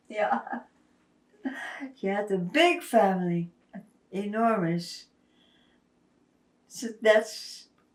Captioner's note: laughing